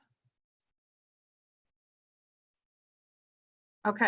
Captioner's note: silence